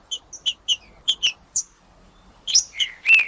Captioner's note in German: trinca ferro cantando